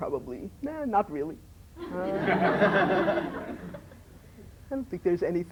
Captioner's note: laughter